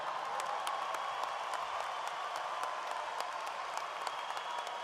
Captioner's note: audience applauds and cheers